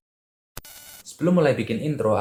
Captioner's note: interference sound